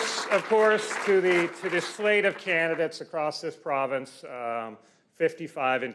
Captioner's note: applause